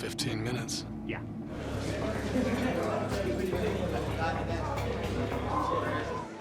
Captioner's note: indistinct chatter